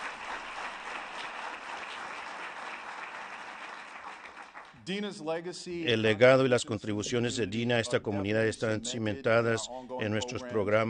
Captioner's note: applause